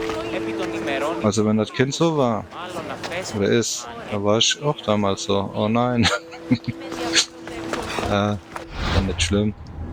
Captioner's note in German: gelächter